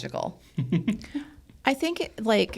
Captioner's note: laughs